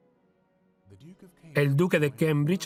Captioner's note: voiceover